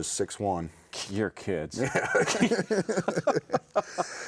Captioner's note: both laughing